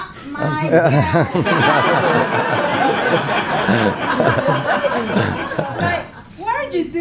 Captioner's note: laughing